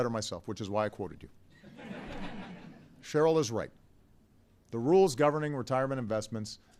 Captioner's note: laughter